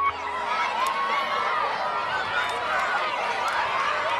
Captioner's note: children shouting